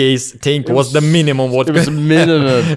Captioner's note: laughs